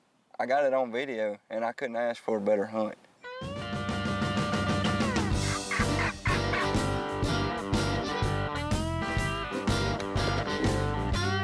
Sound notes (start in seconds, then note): 3.6 upbeat music; 4.1 turkey calling; 7.1 upbeat music